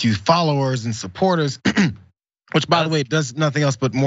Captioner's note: cough